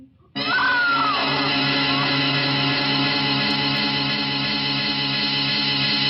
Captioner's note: person screaming; suspenseful music